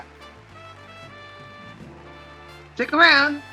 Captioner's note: audience clapping